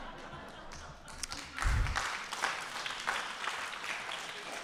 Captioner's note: audience applauds